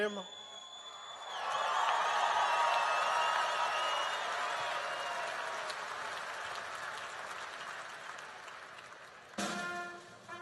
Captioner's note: applause and cheering